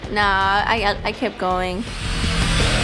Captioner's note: grinding sound; upbeat music